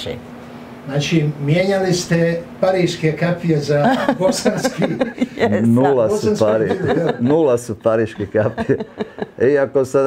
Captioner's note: laughs